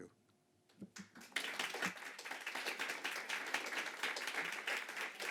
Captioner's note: audience applauding